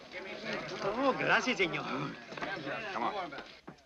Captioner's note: speaking spanish